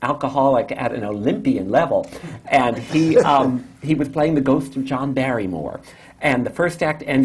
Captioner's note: laughter